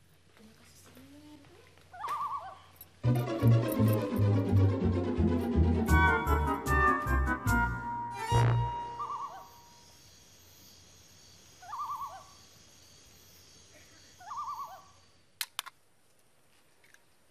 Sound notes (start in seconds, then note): 1.9 bird hooting; 8.7 bird hooting; 11.6 bird hooting; 14.1 bird hooting